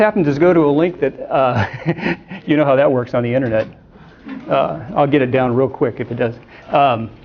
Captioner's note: laughs